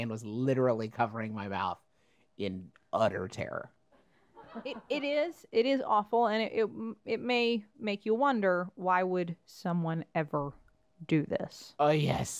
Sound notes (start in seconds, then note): 4.5 laugh